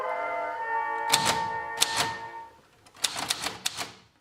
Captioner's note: typewriter clicks